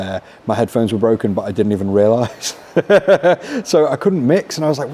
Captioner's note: laughs